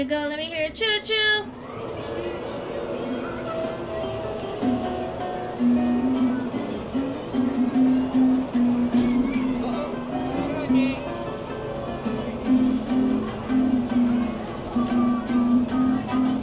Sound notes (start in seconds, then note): 3.9 upbeat music continues; 9.9 attendees having indistinct conversations